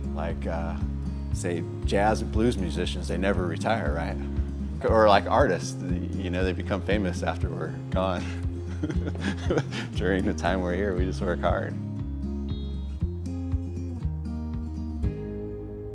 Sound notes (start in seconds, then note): 8.1 laughs; 13.1 gentle music